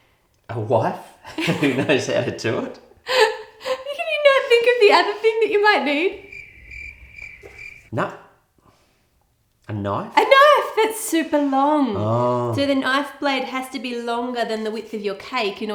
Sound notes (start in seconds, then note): 6.0 crickets